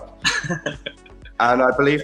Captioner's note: Ella giggling